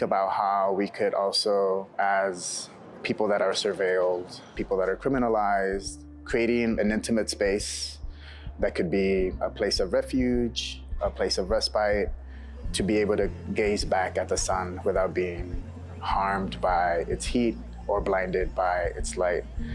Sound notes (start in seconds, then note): none